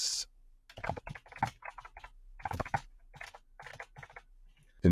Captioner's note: keyboard typing